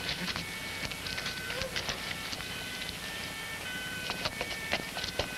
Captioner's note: ambulance siren in distance